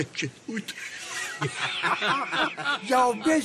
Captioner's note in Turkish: Gülüşmeler